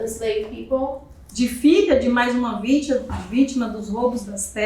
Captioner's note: speaking portuguese